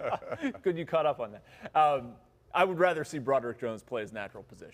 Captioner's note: laughter